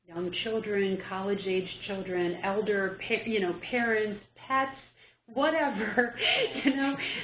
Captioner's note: chuckle